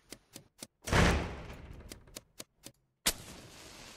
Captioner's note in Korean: 문이 쾅 닫히는 소리